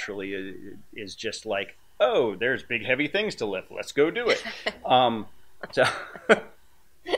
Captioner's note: laughing